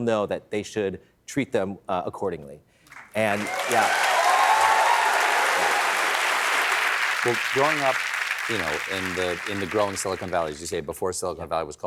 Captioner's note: applause